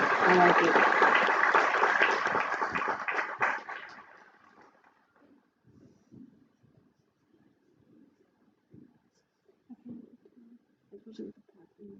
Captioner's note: applause